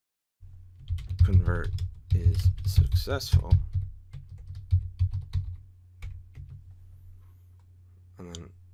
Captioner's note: typing